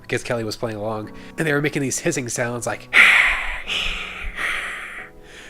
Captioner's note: snarling sounds